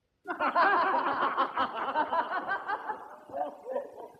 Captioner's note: boisterous laughter